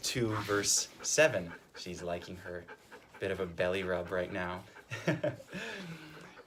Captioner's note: chuckles